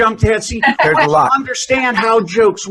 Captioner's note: laughter